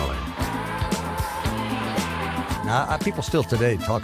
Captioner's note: upbeat music; singe vocalizing